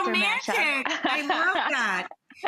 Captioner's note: laughs